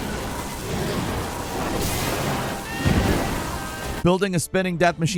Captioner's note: thunder buzzing